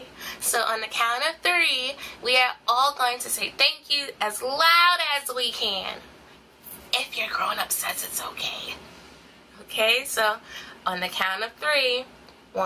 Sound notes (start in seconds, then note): 6.8 whispering